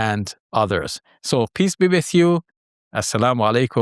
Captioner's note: foreign language